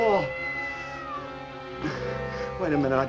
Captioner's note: cat Meows